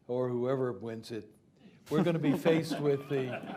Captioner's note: laughter